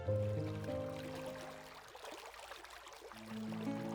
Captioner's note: water flowing